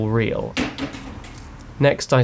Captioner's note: table bangs